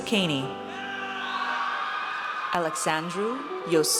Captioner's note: audience cheers